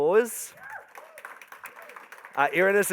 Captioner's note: crowd applauding